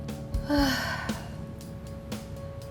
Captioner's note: sighs